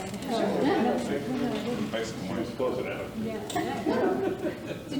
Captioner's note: indistinct conversation